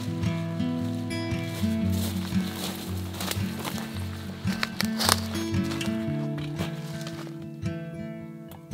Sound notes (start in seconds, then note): 1.7 rustling foliage; 4.9 calming acoustic guitar